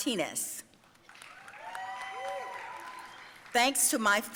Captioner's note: audience cheering and applauding